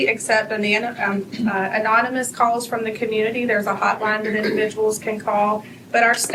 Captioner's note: clears throat